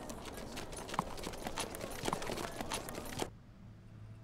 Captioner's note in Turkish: At nalı sesi